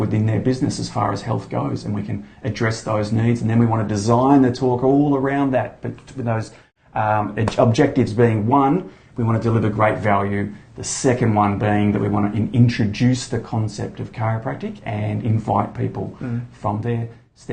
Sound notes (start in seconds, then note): none